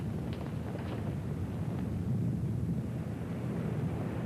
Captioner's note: ocean rumbling